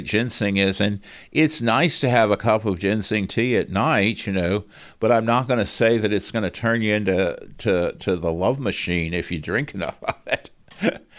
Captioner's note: laughs